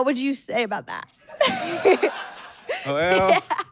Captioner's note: audience cackles